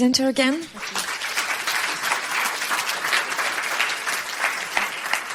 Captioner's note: audience clapping